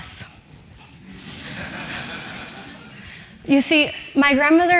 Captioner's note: laugh